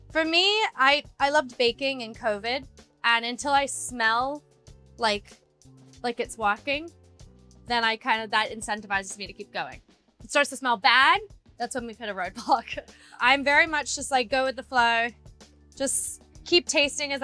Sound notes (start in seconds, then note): none